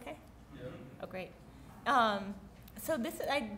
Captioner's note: voiceover